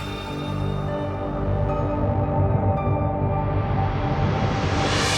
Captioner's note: air eerily whooshing